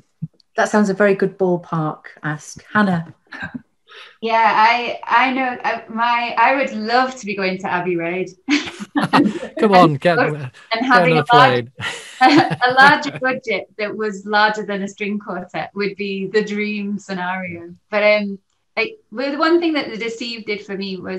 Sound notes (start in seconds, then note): 8.6 all laughing